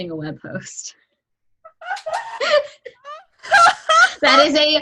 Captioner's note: laughs